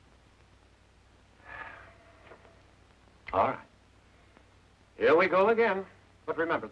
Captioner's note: sighs